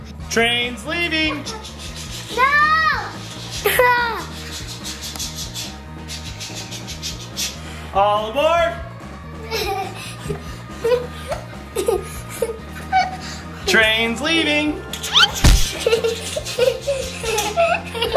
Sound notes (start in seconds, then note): 1.1 making choo choo sounds; 9.4 laughing; 15.1 laughing